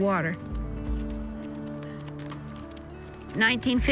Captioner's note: horse hooves clopping